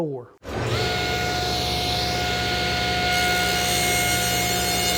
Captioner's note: bandsaw Cutting